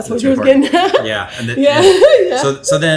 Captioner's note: laughs